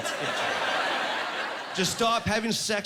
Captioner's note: laughing